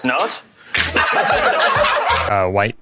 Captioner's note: group laughs